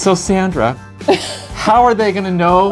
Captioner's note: laughs